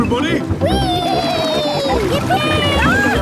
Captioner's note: George giggles